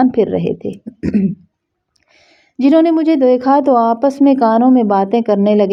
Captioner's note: clears throat